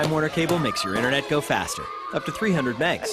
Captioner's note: boys screaming